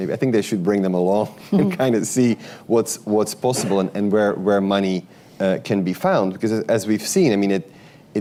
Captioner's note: laughter